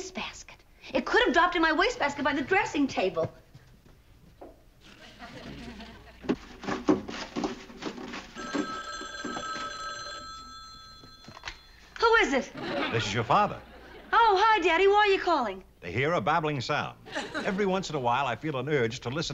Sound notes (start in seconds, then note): 8.3 phone rings